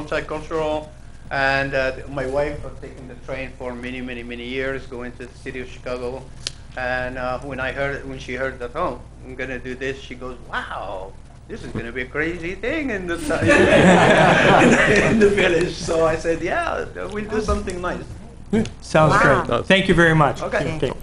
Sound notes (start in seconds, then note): 13.2 laughter